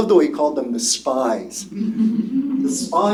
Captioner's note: laughter